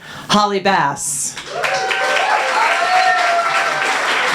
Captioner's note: applause